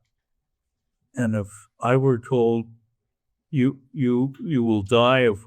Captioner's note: none